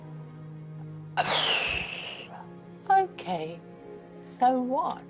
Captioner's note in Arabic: تتأفف